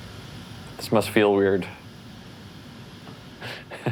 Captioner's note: laughs